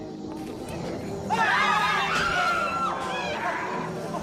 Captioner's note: screams